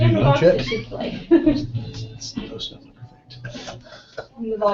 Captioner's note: laugh